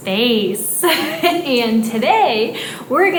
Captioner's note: laughs